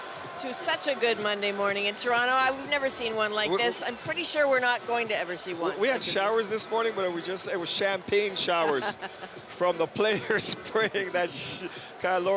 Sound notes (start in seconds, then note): 1.6 cheers